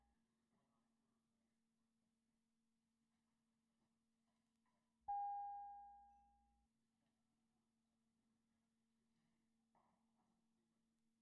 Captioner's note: bells Ringing